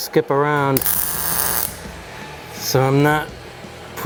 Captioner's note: tool whirring